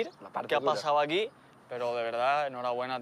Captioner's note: none